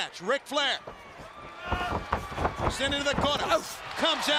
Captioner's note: crowd chatter